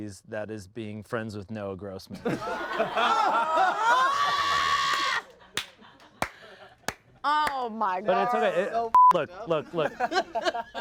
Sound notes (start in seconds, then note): 2.2 everyone laughs; 8.9 beep